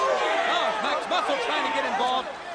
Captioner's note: crowd chatter